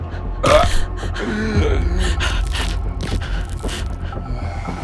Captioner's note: Bloodbath demon grunts; neck crunches; eerie music continues; Sarah breathing